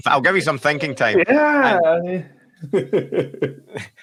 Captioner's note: laughs